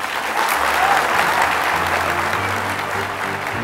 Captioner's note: cheers and applause